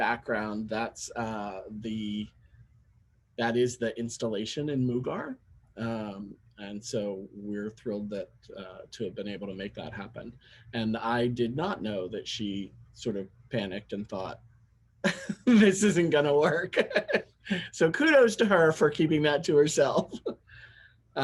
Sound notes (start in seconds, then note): 15.1 laugh